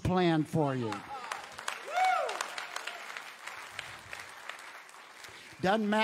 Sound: audience cheers and applauds

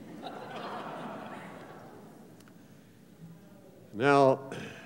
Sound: laughter

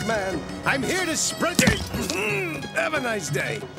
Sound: groans

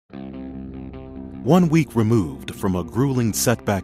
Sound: voiceover

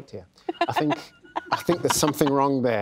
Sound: laughs

